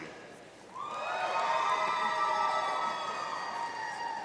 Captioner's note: audience cheering